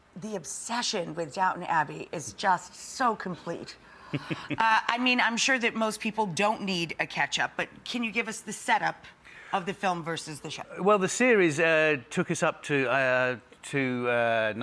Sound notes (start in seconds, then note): 4.1 Hugh chuckling